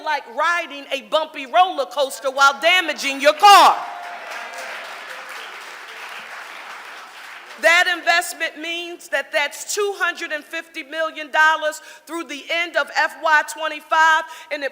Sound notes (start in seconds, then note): 3.4 audience applauding